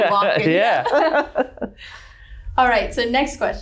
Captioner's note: laughing